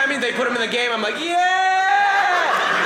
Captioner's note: audience laughing